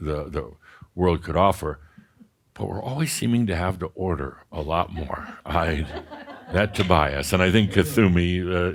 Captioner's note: more chuckles